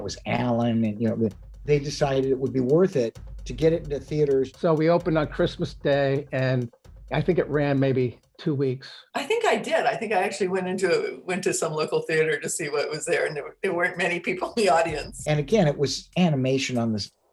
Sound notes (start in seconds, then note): 14.9 laughing